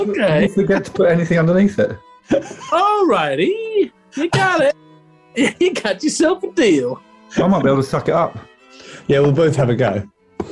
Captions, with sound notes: Did you forget to put anything underneath it? [AMERICAN ACCENT] Alrighty! [AMERICAN ACCENT] You got it! [AMERICAN ACCENT] You got yourself a deal! I might be able to suck it up. Yeah, we'll both have a go.